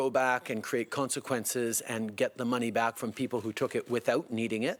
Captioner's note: speaking French